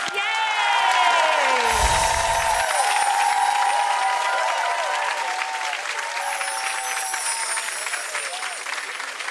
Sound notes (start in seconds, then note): 1.7 audience cheering; 1.7 chimes ring